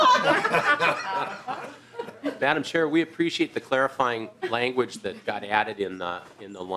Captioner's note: laughing